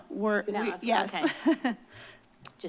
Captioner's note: chuckles